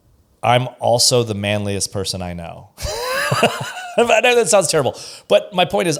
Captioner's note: laughs